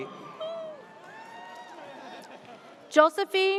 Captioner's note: audience cheers